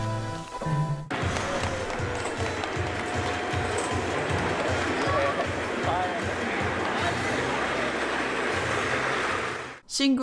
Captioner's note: plastic wheels on tarmac, distant loud music, some cheering